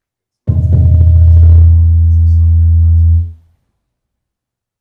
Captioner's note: microphone reverberates loudly